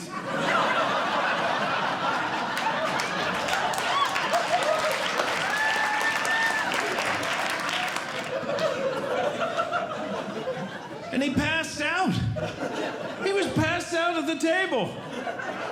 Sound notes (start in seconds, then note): 0.0 audience Laughing; 2.0 audience Clapping